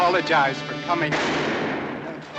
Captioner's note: shot fires